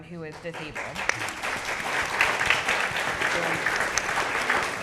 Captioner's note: audience clapping